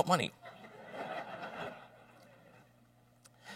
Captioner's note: laughter